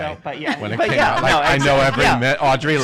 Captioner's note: laughs